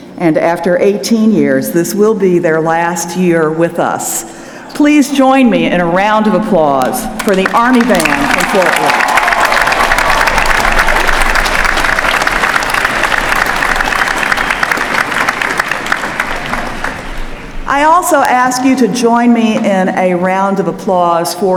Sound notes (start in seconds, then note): 9.7 applause